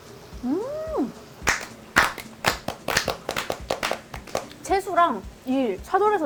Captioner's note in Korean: 짝짝짝